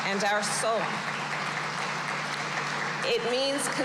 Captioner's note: applause